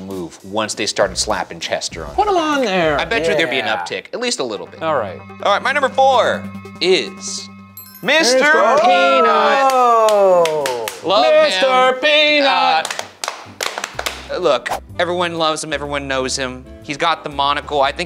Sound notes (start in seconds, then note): 9.7 Shane slapping leg; 12.9 Jarvis and Shane slapping legs